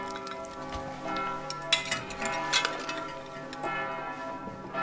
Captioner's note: church bells ring